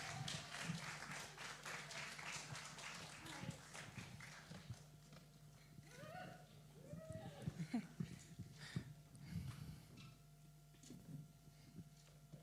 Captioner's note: cheering & applause